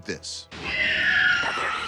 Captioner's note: screeching